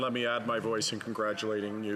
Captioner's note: speaking French